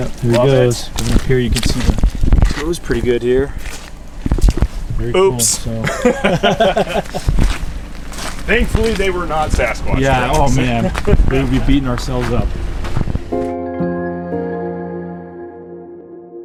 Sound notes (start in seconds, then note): 5.8 chuckling; 13.3 light music